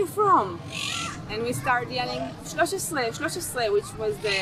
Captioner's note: hebrew